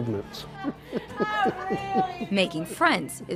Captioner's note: laughing